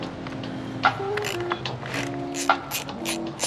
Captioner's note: tools cranking